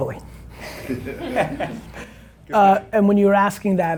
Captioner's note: laughing